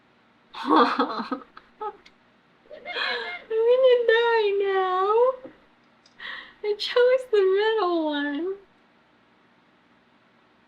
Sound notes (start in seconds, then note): 2.7 laughs